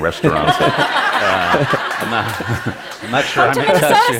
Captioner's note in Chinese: Laughter; 笑聲